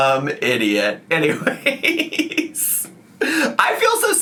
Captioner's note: laughs